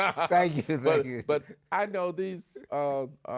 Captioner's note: laughs